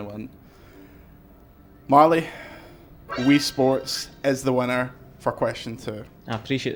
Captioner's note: winning noise